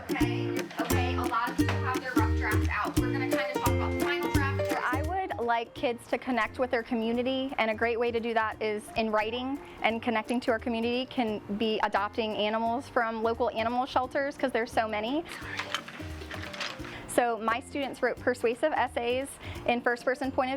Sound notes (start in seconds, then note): 15.3 paper turning and pencils hitting together